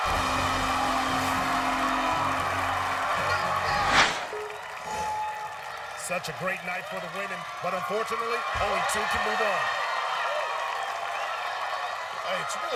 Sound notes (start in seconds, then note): 0.0 air horn blares; 2.2 wild cheering; 4.0 triumphant music